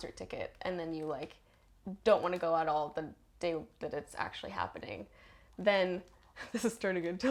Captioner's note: giggles